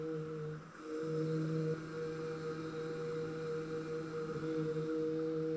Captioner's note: soft humming